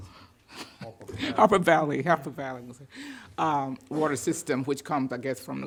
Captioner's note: laughs